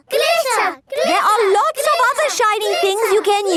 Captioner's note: chanting